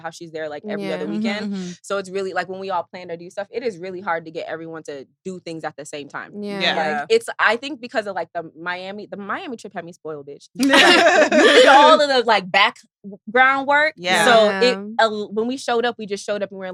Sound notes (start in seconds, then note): 10.6 all laughing